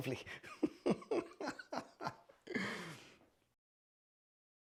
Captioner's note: joyful chuckling